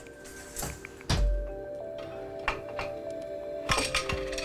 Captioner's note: loom clanking